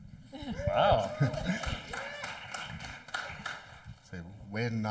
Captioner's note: audience clapping